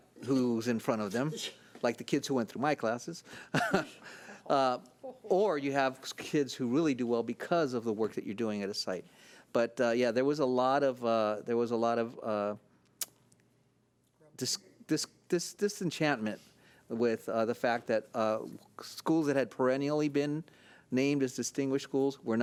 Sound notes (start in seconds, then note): 3.4 laughing